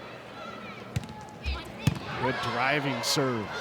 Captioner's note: ball thumping